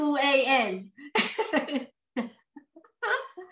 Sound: laughs

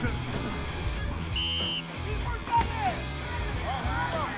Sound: whistle; upbeat music

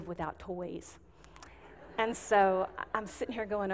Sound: audience giggling

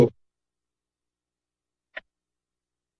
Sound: silence

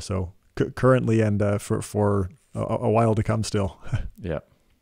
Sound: laughs

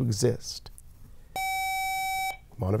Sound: buzzer

